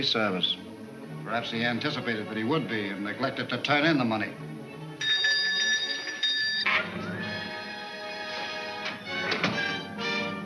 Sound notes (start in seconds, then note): 3.9 dramatic orchestra music; 5.0 bell ringing